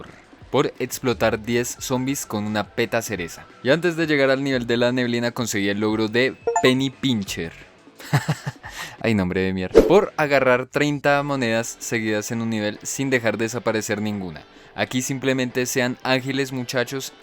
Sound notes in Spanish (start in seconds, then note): 8.0 risas